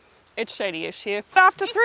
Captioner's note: laughing